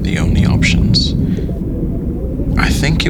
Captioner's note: underwater sound